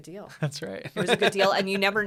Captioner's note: laughs